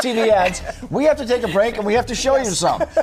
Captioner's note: laughter